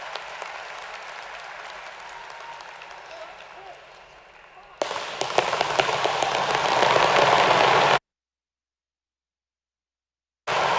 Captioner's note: cheers and applause